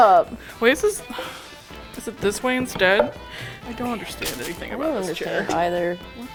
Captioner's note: sighs